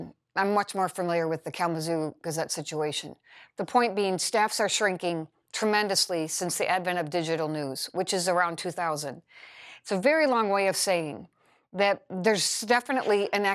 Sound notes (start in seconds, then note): none